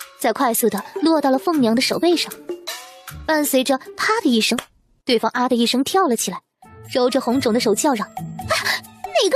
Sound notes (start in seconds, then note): 4.5 slap